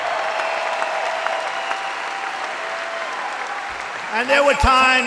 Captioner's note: applause